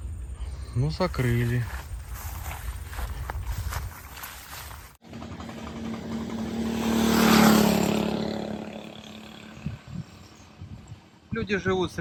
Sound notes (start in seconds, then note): 0.8 engine roaring